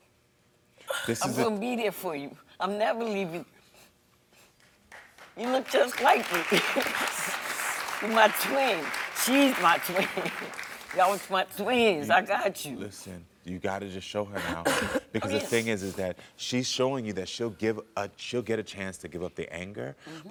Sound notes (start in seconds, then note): 4.8 audience applauding; 5.4 laughing